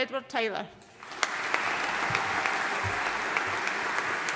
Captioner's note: audience applauding